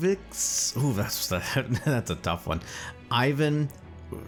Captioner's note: laughs